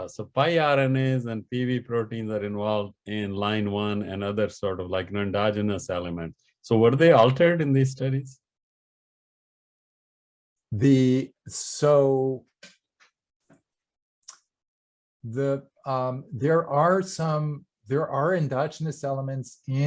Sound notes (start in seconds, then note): none